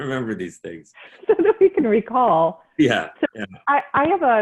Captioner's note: chuckling